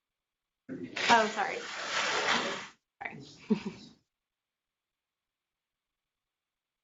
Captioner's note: chuckles